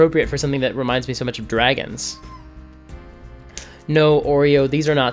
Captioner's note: dog whimpers